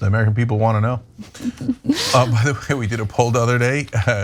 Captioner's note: laugh